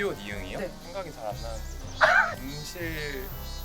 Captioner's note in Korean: 웃음